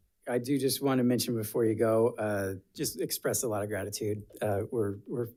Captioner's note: none